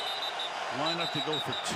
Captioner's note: whistle